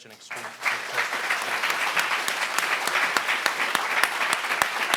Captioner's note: audience clapping